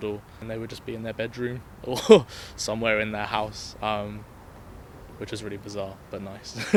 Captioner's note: laughs; laughs